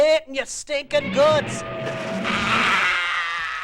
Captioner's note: Godzilla roar